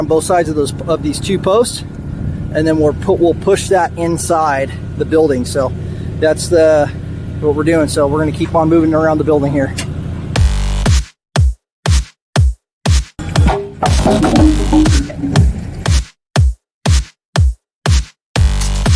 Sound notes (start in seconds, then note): 10.6 upbeat music; 13.7 wood falls